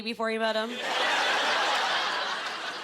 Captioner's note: laughing